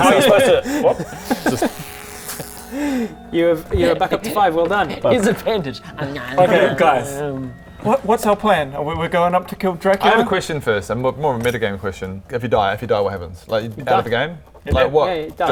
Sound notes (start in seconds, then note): 1.6 miracle bandages noises; 6.0 om nom nom